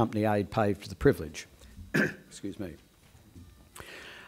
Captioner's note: coughs